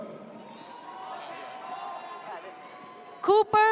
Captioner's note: audience cheers